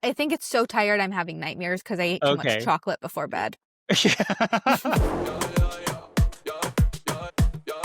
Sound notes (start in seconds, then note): 3.9 laughing; 4.7 upbeat music